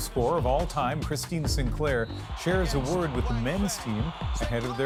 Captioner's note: applause